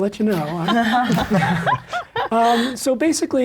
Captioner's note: everyone laughs